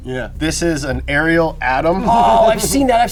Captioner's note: laughs